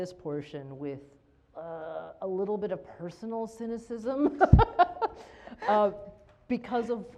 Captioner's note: laughs